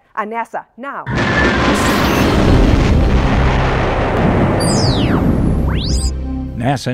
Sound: sound Effects

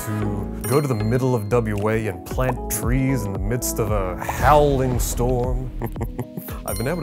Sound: chuckles

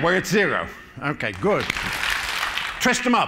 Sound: applause

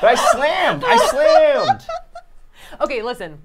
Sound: laughing

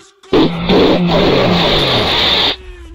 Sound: loud among us explosion

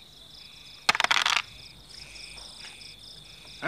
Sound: dice rattle

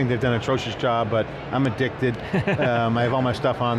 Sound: laughing

